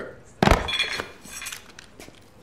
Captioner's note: clattering